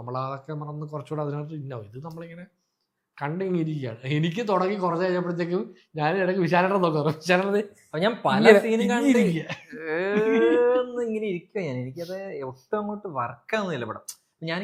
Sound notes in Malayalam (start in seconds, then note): 9.2 പൊട്ടിച്ചിരി